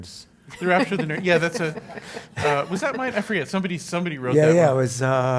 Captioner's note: laugh